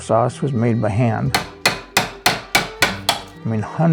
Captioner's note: can clacking